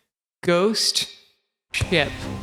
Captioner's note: reverb